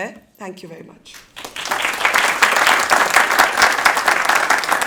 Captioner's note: audience applauds